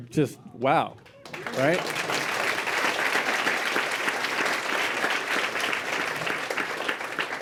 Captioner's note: applause